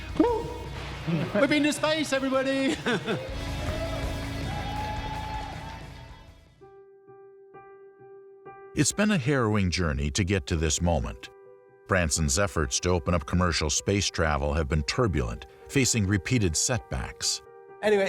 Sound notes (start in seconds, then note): 2.6 laughs; 3.4 audience cheers; 6.8 suspenseful music